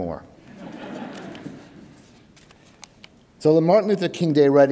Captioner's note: audience laughs